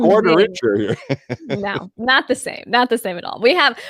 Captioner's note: laughs